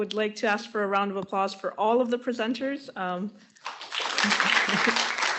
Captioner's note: applause